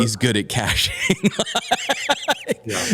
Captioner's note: laughter